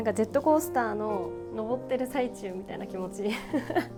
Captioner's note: laughter